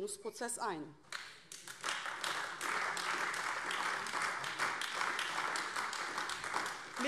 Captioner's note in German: Beifall AfD